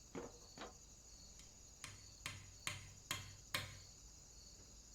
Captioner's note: hammer pounding